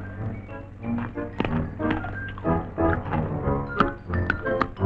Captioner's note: pickle crunching